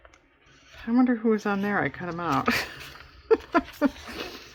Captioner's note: laughs